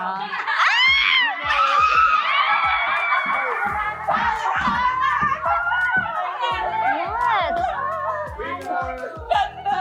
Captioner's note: people shriek in excitement; shrieks in delight